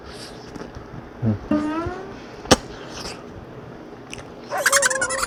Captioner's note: slurping every single piece of meat